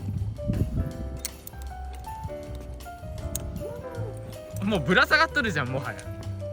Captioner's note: laughs